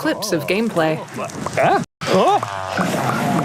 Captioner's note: grunting